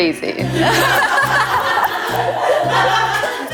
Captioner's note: bursting with laughter